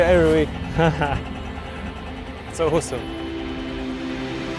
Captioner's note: laughs